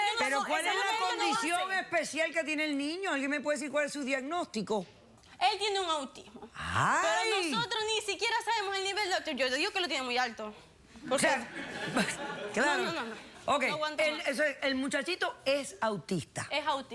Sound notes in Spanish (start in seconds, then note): 11.2 risas